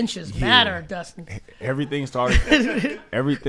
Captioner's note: group laughs